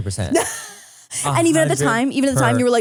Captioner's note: laughs